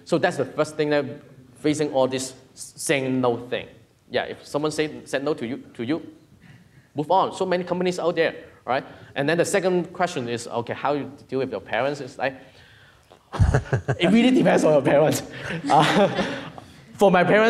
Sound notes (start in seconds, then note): 13.3 laughing; 15.5 audience laughing; 16.0 laughing